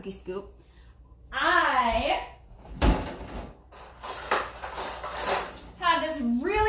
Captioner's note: metal clanging